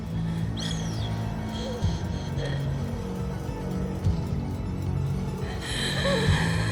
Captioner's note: ominous music continues; Lenora wheezes